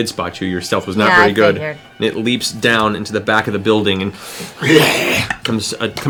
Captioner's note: growls